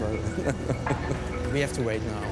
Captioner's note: laughs